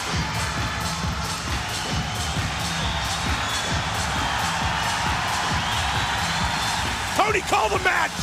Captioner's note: crowd cheering